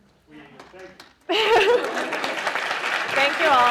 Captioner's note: applause